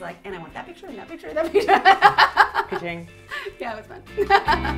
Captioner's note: laughs